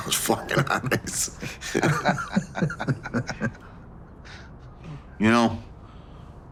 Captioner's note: continue laughing